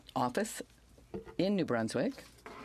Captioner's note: speaking French